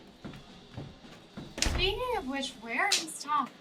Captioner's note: door shutting